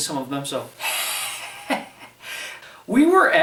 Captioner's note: laughs